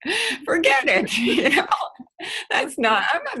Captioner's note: laughing